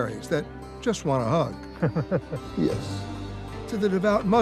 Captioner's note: laughing